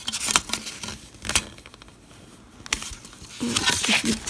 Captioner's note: paper rustling